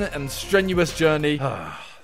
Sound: sighs

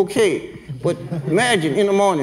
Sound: everyone laughs

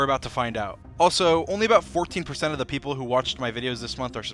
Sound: none

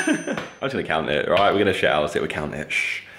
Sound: laughs

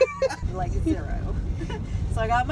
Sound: chuckles; laughs

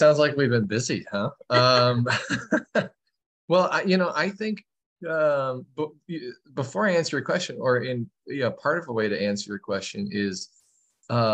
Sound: laughter

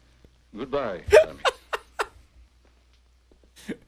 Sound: laughs

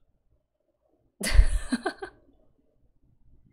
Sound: laughs

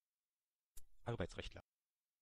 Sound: fast Pronunciation

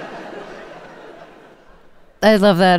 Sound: laughter

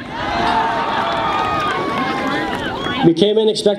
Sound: audience laughs

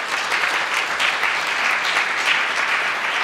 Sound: applause

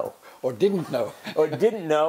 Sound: laugh

